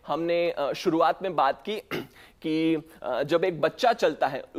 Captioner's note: clears throat